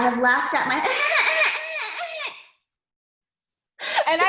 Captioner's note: laughs sarcastically